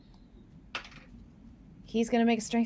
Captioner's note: dice rattling